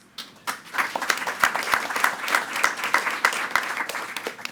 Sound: attendees clapping

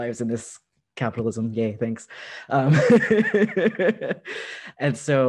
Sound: laughter

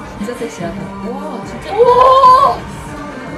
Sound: screams

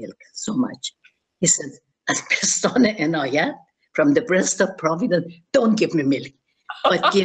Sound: speaking Persian

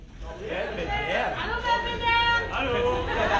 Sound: crowd

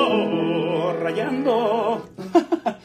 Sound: laughts

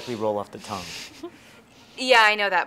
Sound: laughs

